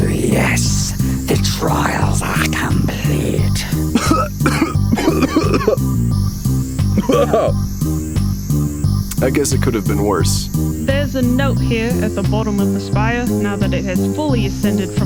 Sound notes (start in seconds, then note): 6.9 gagging